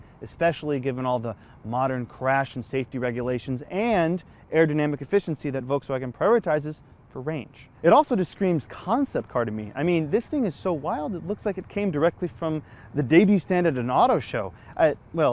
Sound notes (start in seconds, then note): none